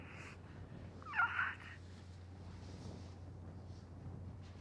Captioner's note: Kathy sobbing